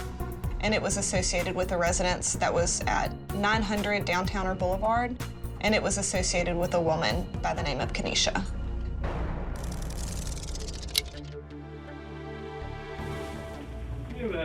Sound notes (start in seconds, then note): 9.6 clock ticking